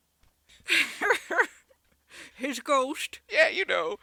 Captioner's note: Leia laughs